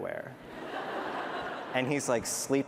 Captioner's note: laughter